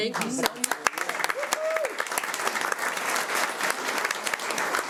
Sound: audience applauding

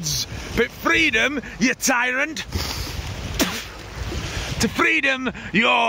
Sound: spits

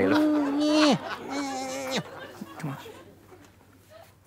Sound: weak grunting

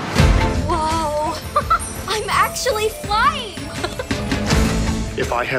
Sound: laughs

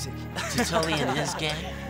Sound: boys laugh

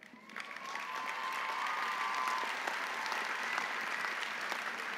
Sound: audience applauding

